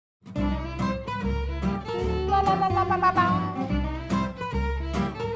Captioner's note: humming; upbeat music